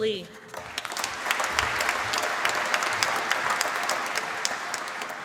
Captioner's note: applause